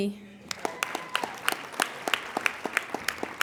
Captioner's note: applauding